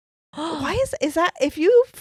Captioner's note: gasps